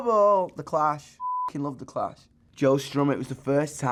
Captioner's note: beep